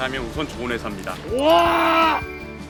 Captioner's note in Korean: 감탄